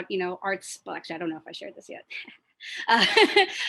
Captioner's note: laughs